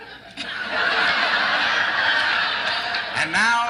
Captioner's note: laughter